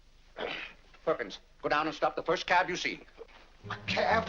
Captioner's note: grumbles